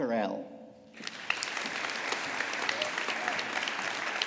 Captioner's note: audience applauding